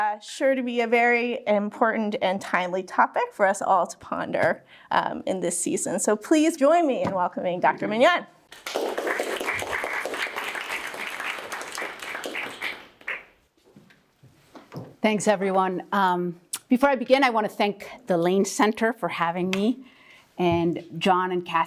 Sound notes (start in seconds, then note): 8.5 applause